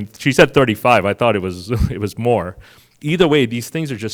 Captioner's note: chuckles